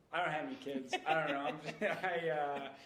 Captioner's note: laughing